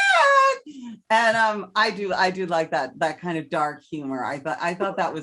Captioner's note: heavy breath